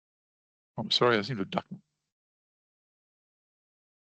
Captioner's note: audio muted